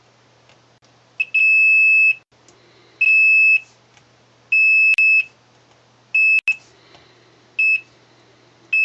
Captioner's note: multimeter beeps